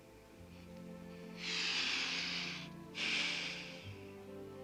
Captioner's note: sighs